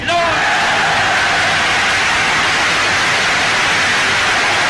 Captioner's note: crowd cheering